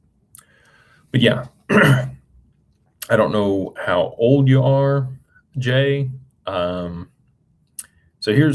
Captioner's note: clears throat